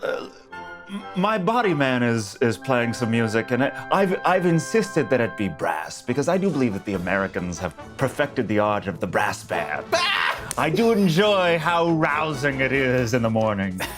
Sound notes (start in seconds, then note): 9.8 screams